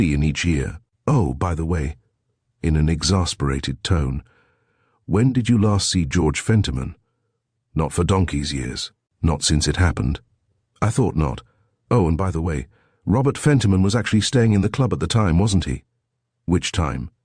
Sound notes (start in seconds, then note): 2.5 in an exasperated tone